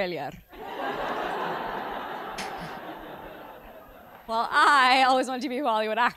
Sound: laugh

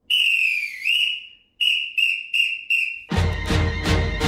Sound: whistle blowing

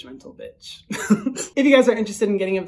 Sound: laughs

